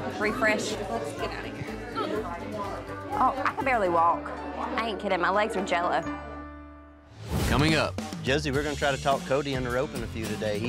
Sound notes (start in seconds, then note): none